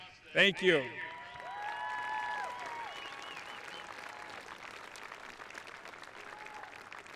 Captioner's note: audience cheering; audience applauding